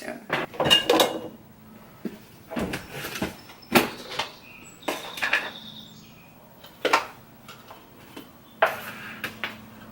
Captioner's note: coffee container tapping and birds chirping